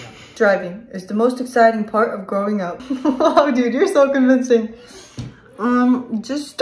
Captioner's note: laughs